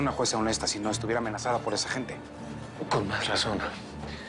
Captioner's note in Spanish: none